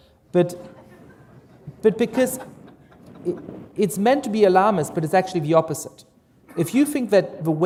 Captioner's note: laughter